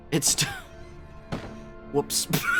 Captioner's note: thunk